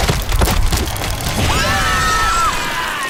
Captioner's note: screams